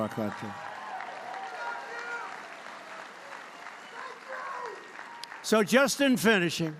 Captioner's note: applause